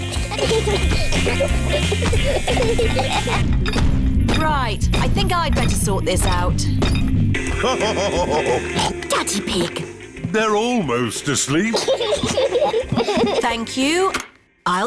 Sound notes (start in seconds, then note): 3.6 feet stamping; 7.5 laughs / honks; 11.6 both laugh